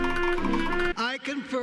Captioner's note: students clap and cheer; mr. krabs walking sound effect